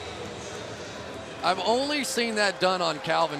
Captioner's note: pa announcement